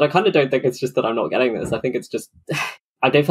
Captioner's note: sighs